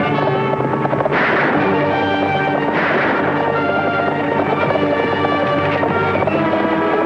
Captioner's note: horses galloping; tense music; guns firing; tense music; horses galloping; tense music